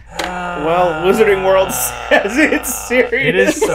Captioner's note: laughs